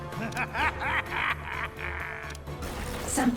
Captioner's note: laughs evilly